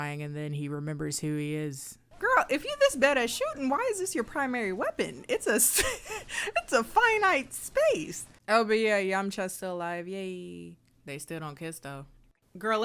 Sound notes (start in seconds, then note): 5.0 laughs